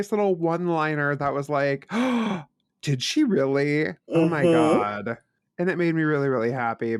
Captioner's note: gasp